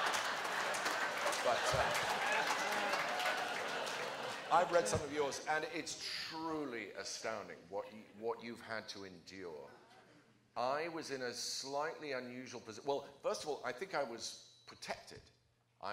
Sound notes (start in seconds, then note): 3.3 laughter